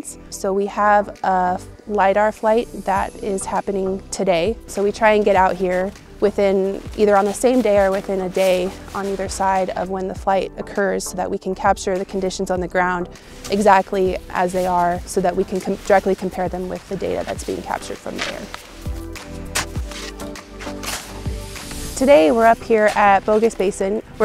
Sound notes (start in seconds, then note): 19.4 shoveling